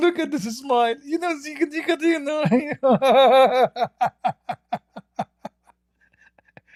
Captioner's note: Ketawa